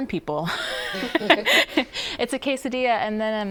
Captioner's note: laughs